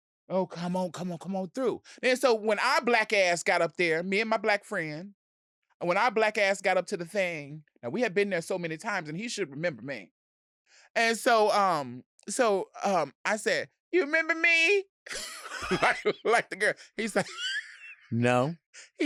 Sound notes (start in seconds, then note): 15.0 both laughing